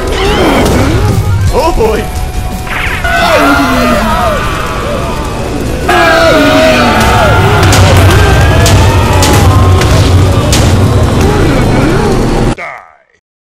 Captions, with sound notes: GAAAAAAH! OH BOY! *Screaming Continues* DIE!